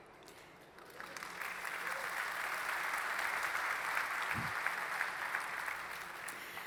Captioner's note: applause